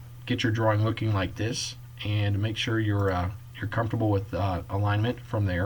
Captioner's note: click